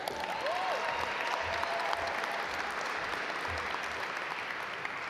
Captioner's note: audience applaud